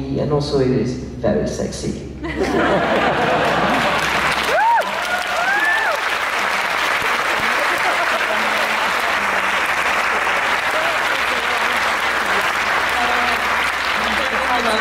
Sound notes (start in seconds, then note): 2.3 laughs & warm applause